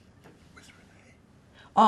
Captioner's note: whispering